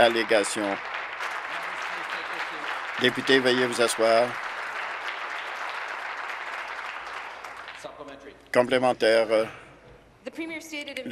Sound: applause

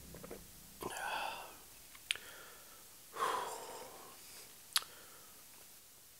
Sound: exhales

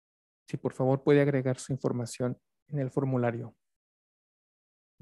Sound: speaks Spanish

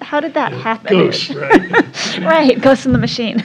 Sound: laugh

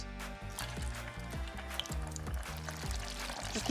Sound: oil frying

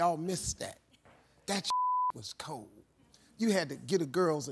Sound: beep

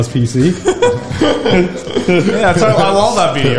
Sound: laugh

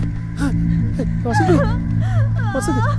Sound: Vasanthi wails in pain

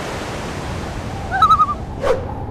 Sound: loon call

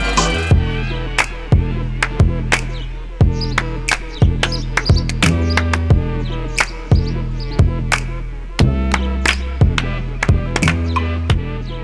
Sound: clap Solo

